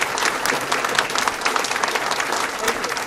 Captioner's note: applause